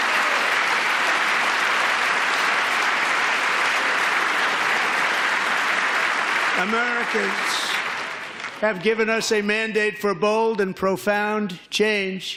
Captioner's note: applause